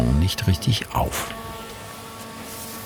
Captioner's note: machine whirring